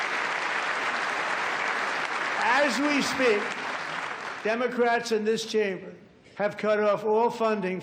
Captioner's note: applause